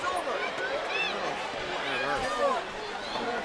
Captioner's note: crowd yelling